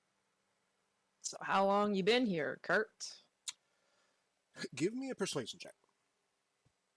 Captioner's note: sucks teeth